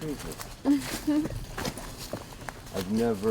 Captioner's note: se ríe entre dientes